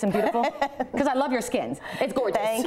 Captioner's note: laughter